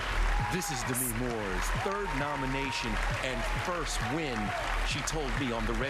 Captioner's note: cheers and applause